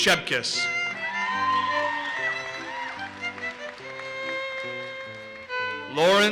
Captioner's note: audience cheers and applauses